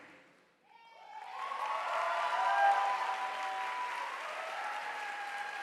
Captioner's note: audience applauding